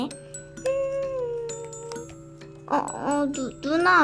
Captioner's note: humming